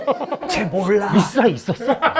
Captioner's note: whisper